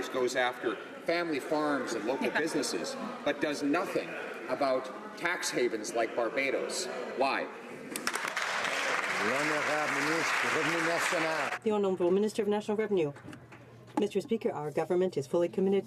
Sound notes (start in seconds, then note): 10.7 some Applause